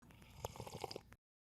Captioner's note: slurp